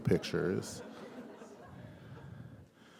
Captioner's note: laughter